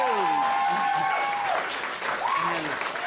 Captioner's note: cheers and applause